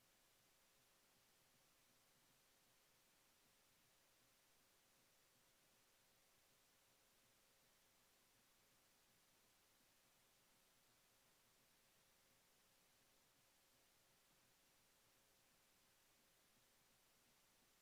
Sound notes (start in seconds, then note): none